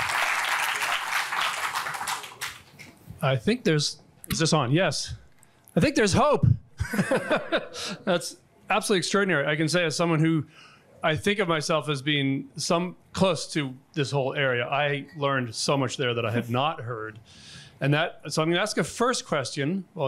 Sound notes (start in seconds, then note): 6.8 all laugh